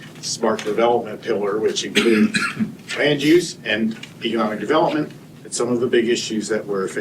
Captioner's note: clears throat and cough